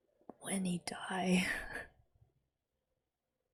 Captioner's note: whispers